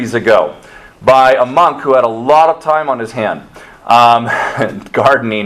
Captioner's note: chuckles